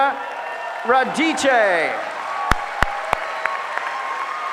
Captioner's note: applause